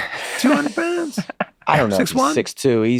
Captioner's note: laughing